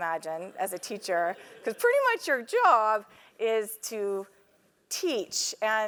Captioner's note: laugh